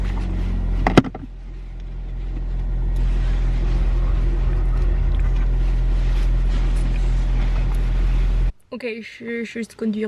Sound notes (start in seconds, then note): 2.1 sound of the engine